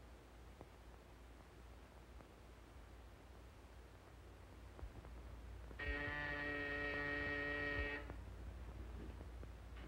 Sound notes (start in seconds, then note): 5.8 phone buzzer